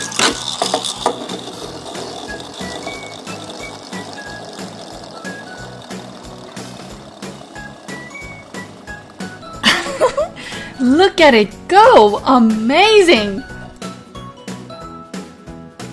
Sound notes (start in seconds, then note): 0.2 bgmusic, winding; 9.6 laugh